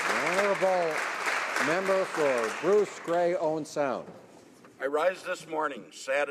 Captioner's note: applause